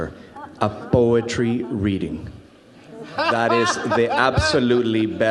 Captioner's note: audience laughs